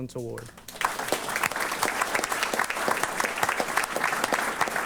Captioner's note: applause